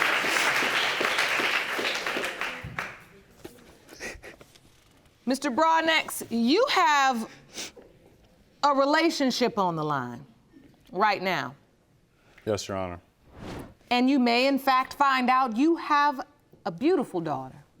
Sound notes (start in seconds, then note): 4.0 sobbing